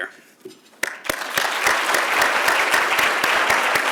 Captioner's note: applause